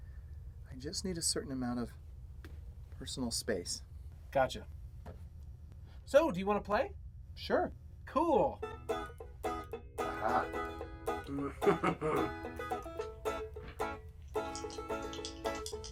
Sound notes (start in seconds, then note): 11.3 chuckles